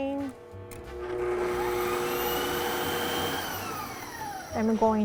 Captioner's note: blender running